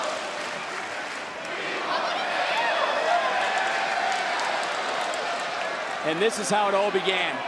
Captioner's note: crowd chanting